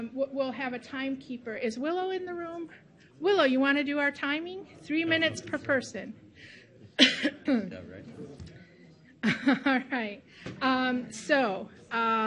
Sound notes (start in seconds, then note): 6.9 coughs; 9.2 laughs